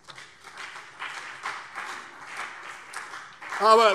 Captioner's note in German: Beifall CDU und BÜNDNIS 90/DIE GRÜNEN